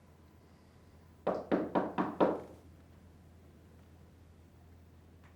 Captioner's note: door knocking